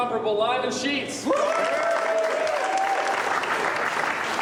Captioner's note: cheering and applause